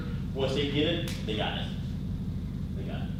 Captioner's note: snaps